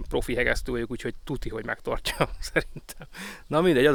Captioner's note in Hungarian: nevetés